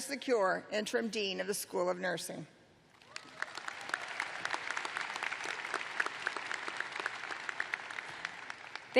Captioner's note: applause